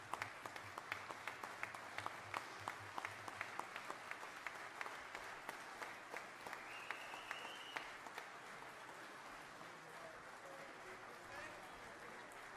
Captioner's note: applause